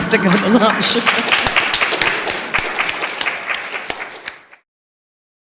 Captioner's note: applause